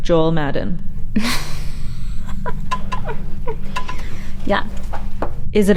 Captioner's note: Hillary chuckling